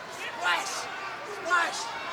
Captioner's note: crowd cheering